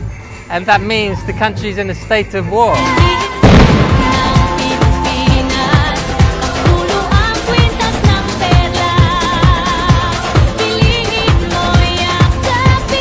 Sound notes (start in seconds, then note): 3.4 gunshot; 7.5 tourism music